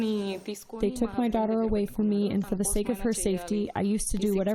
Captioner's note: through translator